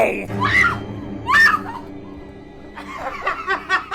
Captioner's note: dramatic music; Claire screaming; intruder laughing; tense music